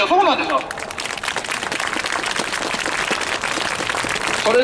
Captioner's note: clapping